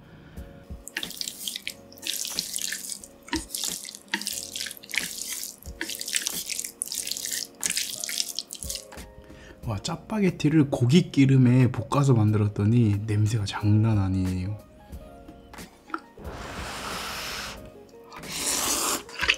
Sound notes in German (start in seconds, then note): 0.9 Geräusch des Knirschens köstlichen Essens